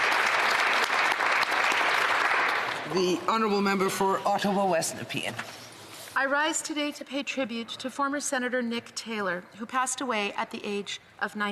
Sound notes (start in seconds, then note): 2.1 applause